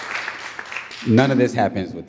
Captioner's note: audience cheering and applauding